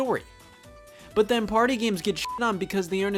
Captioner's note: beep